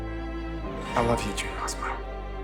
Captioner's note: voiceover